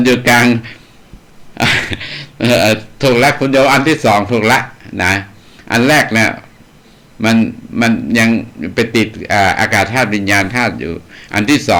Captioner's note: laughs